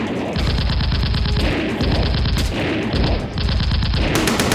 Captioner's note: gunfire rattling